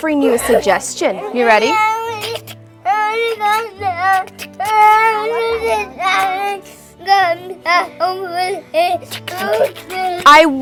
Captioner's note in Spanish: El niño llora / hablar; El niño llorando, gimiendo